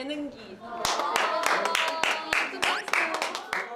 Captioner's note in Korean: 짝짝짝